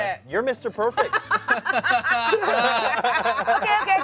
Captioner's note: everyone laughs